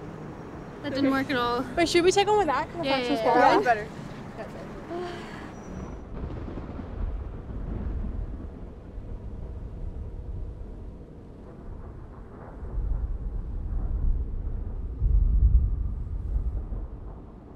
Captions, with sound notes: - That didn't work at all. - All right, should we start - going back and watch the squall line? - Yeah, yeah, yeah. - Yeah, we better. (Thunder rumbles ominously) (Thunder rumbles)